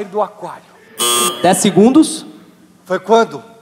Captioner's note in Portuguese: campainha